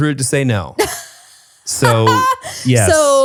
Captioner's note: laughs